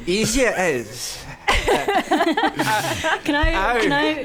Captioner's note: laughing